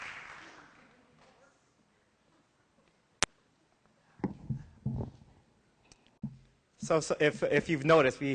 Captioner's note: applause; silence